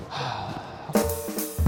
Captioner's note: sighs; upbeat percussive music